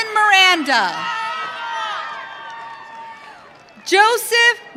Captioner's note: audience cheering